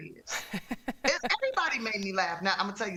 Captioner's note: laughter